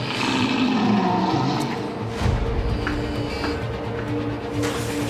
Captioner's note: creature growling